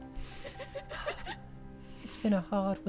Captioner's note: laughter